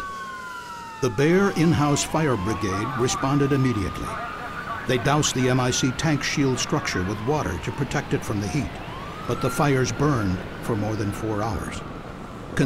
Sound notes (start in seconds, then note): 3.8 sound of sirens